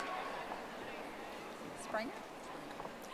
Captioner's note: audience applauding